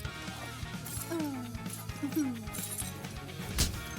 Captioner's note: Rave giggles